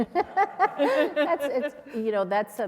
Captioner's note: laughter